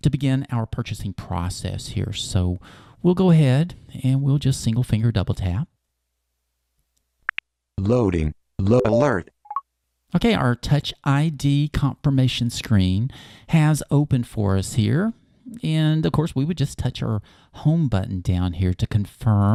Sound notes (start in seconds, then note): 8.8 beep